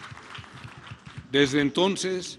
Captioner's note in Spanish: aplausos